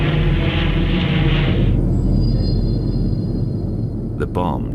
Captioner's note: plane engine roaring